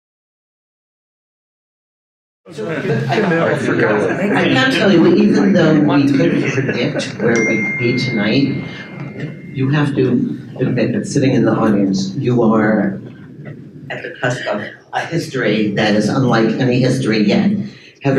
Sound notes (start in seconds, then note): 3.0 attendees chatter